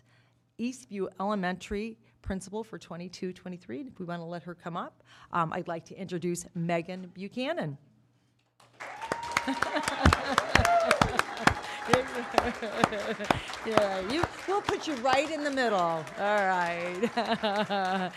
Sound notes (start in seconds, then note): 8.7 cheers and applause